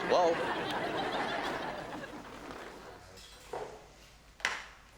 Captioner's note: audience laughs